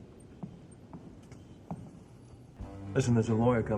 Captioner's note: footsteps patter